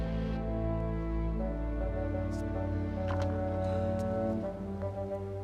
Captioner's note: owl hooting